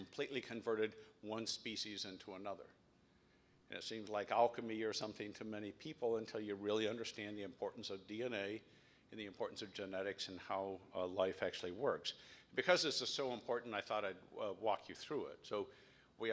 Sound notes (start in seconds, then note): none